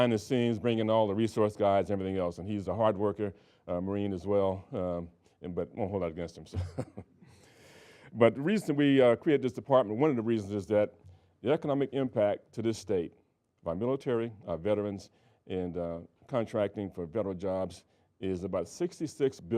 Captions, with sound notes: And Jeff Smith is the guy behind the scenes bringing all the resource guys and everything else, and he's a hard worker, Marine as well, but we won't hold that against him, so (laughing) But the reason we created this department, one of the reasons is that the economic impact to this state by military, veterans, and contracting for federal jobs